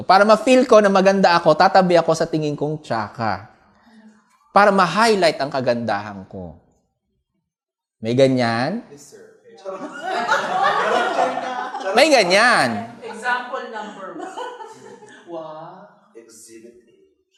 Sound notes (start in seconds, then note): 9.7 laughter; 13.1 murmurs and laughter